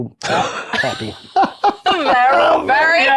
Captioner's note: players laughing